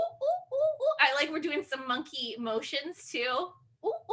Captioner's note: monkey sounds